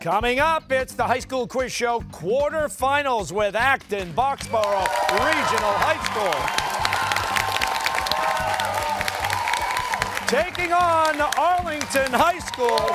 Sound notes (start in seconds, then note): 6.4 cheers and applause